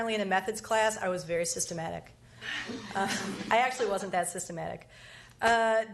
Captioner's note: laughs